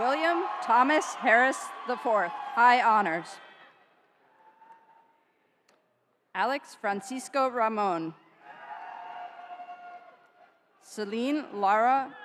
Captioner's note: cheering